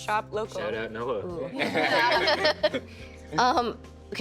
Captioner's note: all laughing